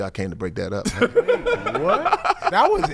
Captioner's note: laughing